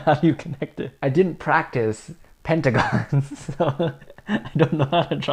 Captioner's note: laughs